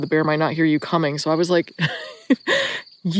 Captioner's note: laughs